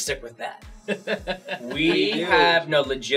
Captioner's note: laughs